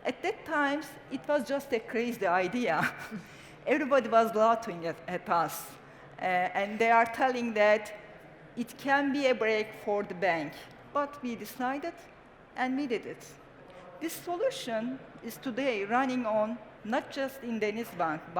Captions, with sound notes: At that time, it was just a crazy idea. [CHUCKLES] Everybody was laughing at us. And they are telling that it can be a break for the bank. But we decided and we did it. This solution is today running not just in DenizBank,